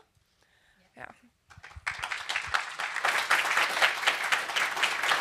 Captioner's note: applause